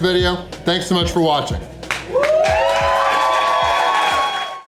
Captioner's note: crowd clapping and cheering